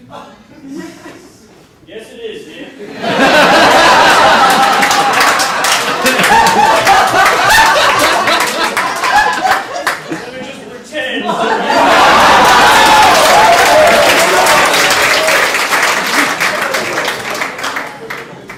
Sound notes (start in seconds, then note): 2.8 audience laughing; 11.4 audience laughs, applauds